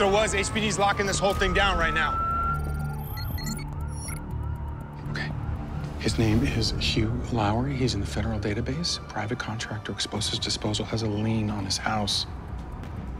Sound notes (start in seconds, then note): 0.0 sirens wailing; 2.7 siren continues wailing